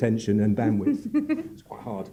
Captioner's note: giggles